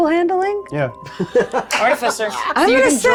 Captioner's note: chuckling